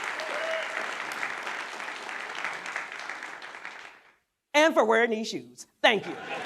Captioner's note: applause